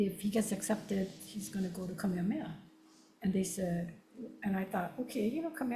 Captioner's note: speaks Hawaiian